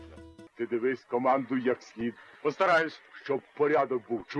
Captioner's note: speaking in Ukrainian